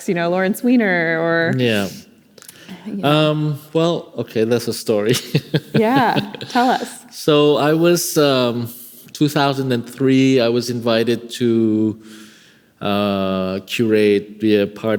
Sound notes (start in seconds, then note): 5.0 laughing